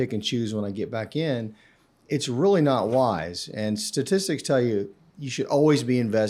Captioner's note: inhales